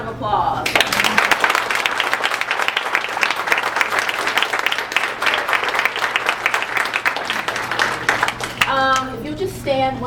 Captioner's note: applause